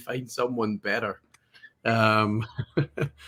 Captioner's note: laughs